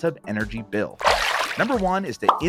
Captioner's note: water swooshing